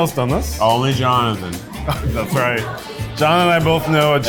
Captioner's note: laughs